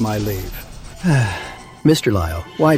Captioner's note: sigh